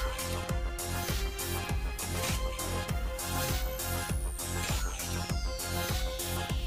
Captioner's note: none